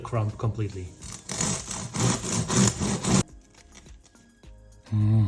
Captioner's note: bread crunching